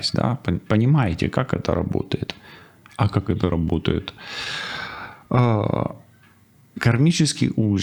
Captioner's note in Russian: тяжело вздыхает